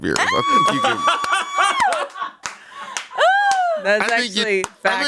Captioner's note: everyone laughs